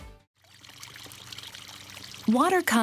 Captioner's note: water gurgling